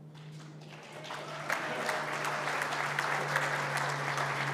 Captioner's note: applause